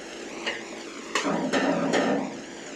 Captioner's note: knocking in the background